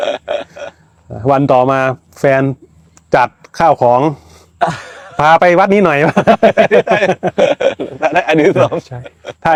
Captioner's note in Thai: เสียงหัวเราะ; เสียงหัวเราะ